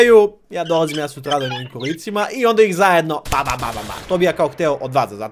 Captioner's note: gunfire imitation